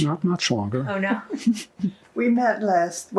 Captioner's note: laughing